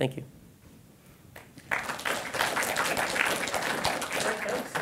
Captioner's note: clapping